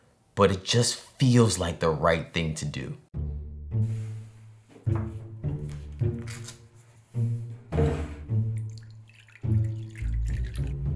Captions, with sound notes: but it just feels like the right thing to do. [bowl sliding] [stock pouring]